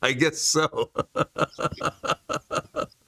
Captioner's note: laughs